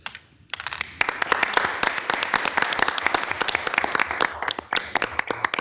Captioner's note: audience applauds